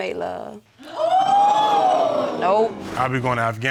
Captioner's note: audience exclaims